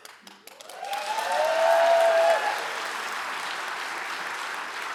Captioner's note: audience cheering